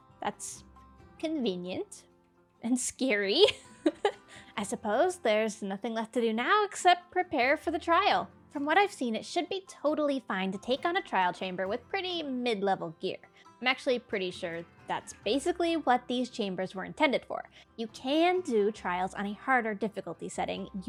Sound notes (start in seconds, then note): 3.5 laughs